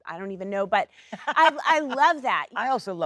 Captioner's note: Sheryl Lee laughs